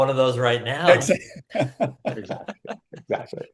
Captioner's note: laughter